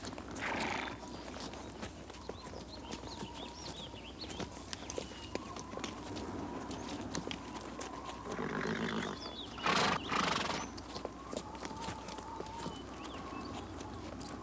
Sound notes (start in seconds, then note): 0.4 horse snorts; 3.6 wind whistles; 9.5 horse snorts